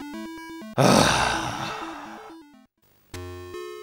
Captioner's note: sigh